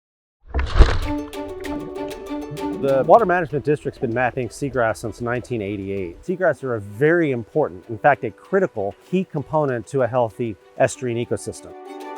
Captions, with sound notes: (water whooshing) (upbeat music) - The water management district's been mapping seagrass since 1988. Seagrass are a very important, in fact, a critical key component to a healthy estuarine ecosystem.